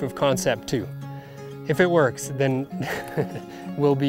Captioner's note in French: rires